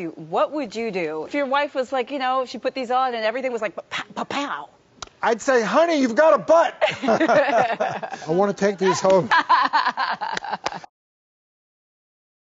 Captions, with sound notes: what would you do if your wife was like, you know, she put these on and everything was like, papow! - I'd say, honey, you've got a butt! (laugh) I want to take these home. (laugh)